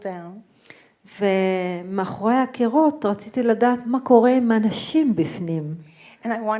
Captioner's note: speaking in foreign language